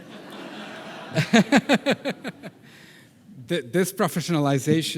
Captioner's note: audience laughing; laughing